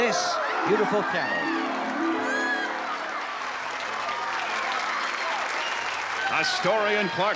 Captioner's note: cheers, applause